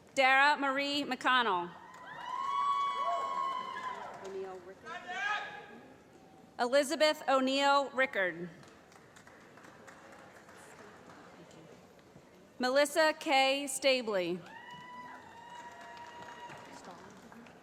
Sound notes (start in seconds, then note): 1.8 cheering; 8.5 applause; 14.4 cheering